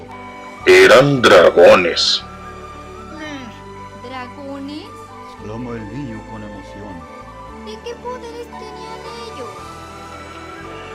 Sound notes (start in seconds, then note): 3.1 the child exclaims with excitement